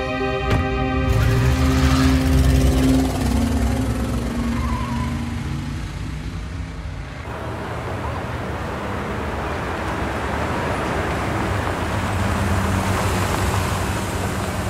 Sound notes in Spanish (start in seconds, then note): 0.4 Sonido al cerrar las puertas; 1.0 Sonido del motor acelerando; 7.6 Ruido de los vehículos